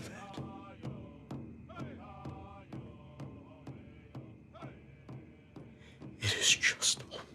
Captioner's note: voices chant; drums beating